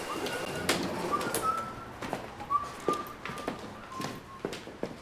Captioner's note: person whistling